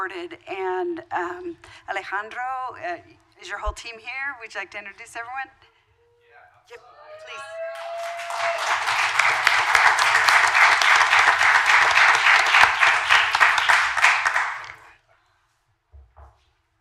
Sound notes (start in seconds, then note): 6.8 cheers; 7.3 applause